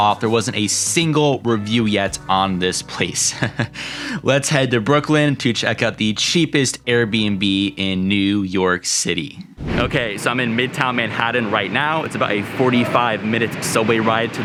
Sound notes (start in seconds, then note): 3.2 laughs